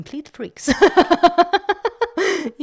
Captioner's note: laugh